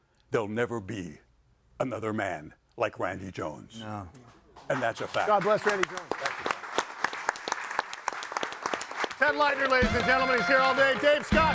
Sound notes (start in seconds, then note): 4.5 audience applauding